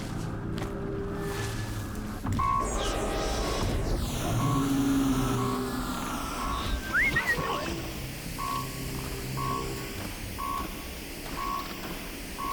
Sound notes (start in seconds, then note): 6.7 whistle